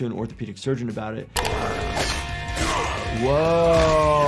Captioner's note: characters grunting